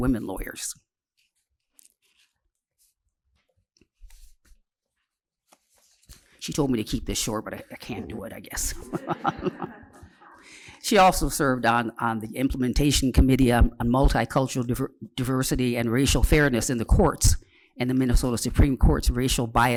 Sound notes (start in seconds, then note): 8.7 laughter